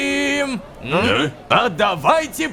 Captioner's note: Questioning intonation from stormtroopers